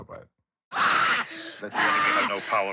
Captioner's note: screams